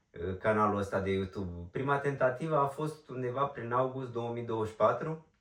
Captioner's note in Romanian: voce dreasă